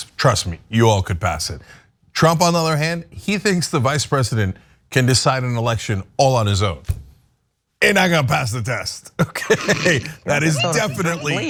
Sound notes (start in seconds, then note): 9.3 laugh